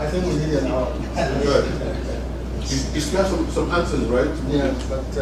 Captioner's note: laugh